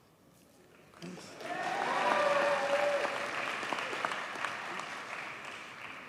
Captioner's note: audience cheers and applauds